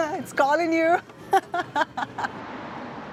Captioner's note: laughs